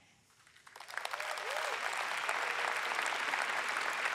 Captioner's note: audience applauds